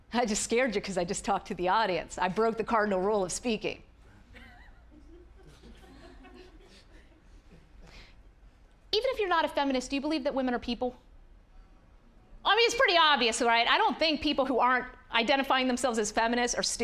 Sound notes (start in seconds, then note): 4.3 audience chuckling